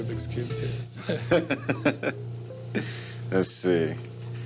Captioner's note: man chuckling